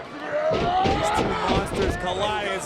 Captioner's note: Strowman yelling